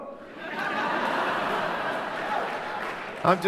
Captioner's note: laughter crowd